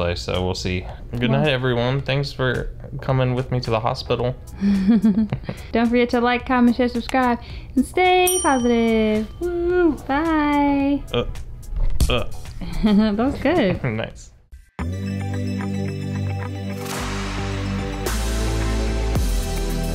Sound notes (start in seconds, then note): 8.2 bell chiming; 11.6 camera thudding; 14.7 upbeat music